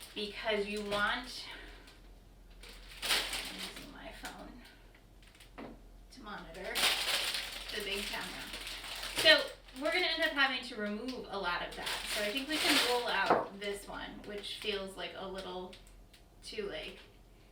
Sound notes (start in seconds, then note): 2.4 crinkling; 4.1 quiet voice; 8.0 crinkling